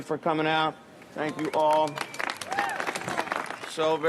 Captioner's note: audience clapping